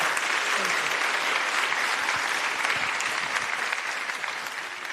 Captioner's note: applause